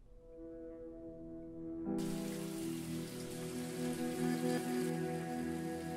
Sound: somber piano music; water splashes

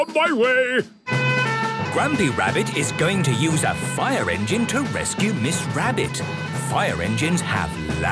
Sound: sirens

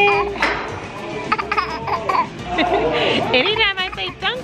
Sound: laughing

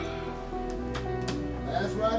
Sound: hands slapping

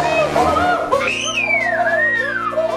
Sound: screams; rainbow ghost growling

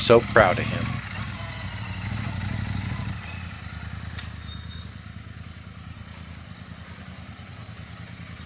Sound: motorcycle sound

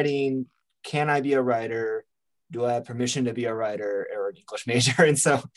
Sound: chuckles

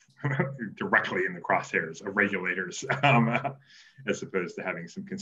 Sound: laughs

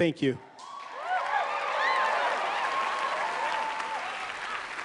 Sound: cheers and applause

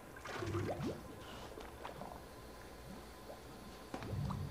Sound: water gushing

